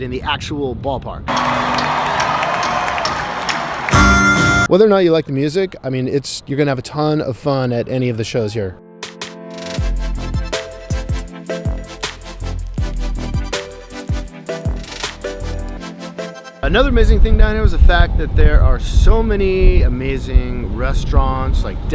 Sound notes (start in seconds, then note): 1.2 audience cheering; 9.0 fun music